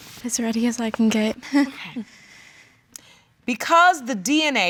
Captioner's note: chuckles